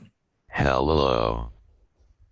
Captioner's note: slow Computerized Voice